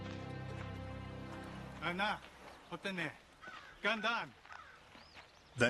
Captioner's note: speaking native language